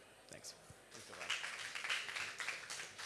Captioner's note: applause